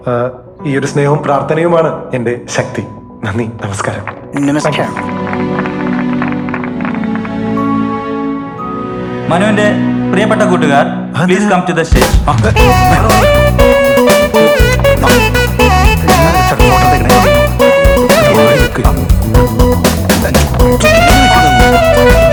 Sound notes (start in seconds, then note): 18.3 mixed chattering